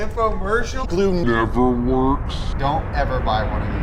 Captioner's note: slowed down speech